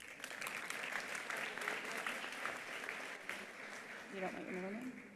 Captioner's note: attendees applauding